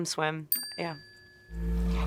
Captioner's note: graphic chiming